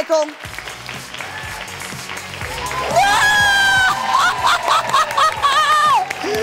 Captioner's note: audience cheers and applause